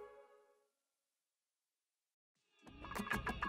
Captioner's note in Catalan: Silenci